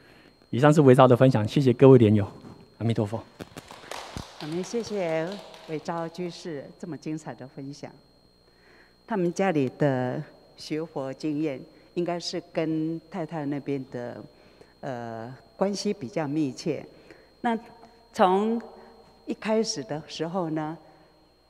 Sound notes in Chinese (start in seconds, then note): 3.4 眾人鼓掌